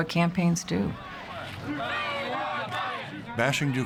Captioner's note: chanting